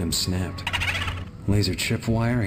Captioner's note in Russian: скри-ри-ри